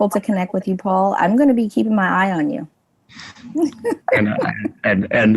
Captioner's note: laughs